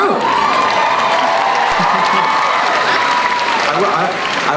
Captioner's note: cheering